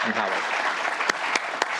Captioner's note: applause